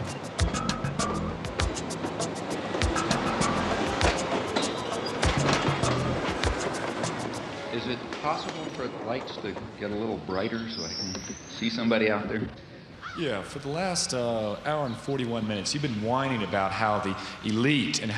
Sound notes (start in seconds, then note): 0.0 lively music; 4.3 train rumbling